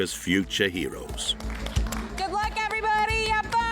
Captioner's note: crowd applauding